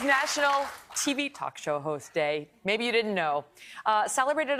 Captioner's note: cheers and applause